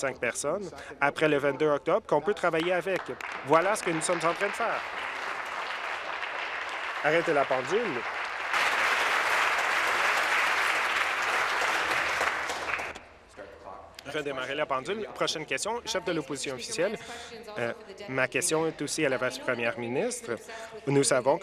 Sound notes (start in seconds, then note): 6.7 applause